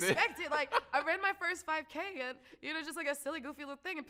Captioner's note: laughs